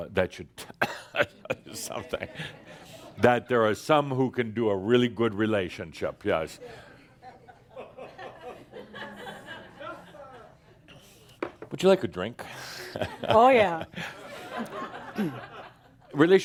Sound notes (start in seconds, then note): 0.7 chuckles; 7.2 some chuckles as he looks at Linda; 14.6 more chuckles